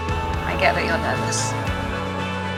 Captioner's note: voiceover